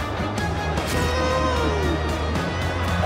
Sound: groaning

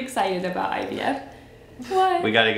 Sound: chuckles

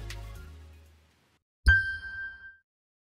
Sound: chime sound

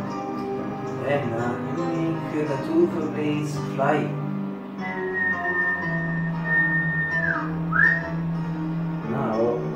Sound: whistle

